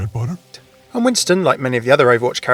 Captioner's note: voiceover